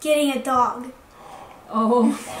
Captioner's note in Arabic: لهيث